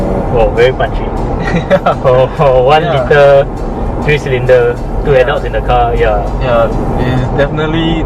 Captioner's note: laughs